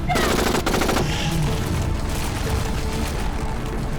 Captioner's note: gun firing